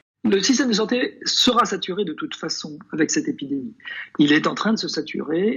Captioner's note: man speaking a foreign language